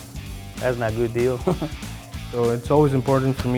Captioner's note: chuckles